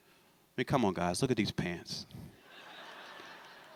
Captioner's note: laughter